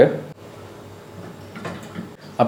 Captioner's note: speaker noise